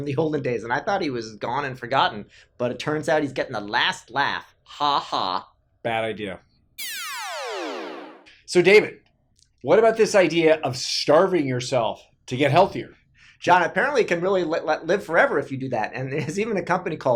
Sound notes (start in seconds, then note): 6.8 electronic whooshing